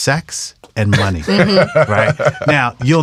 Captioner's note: laughs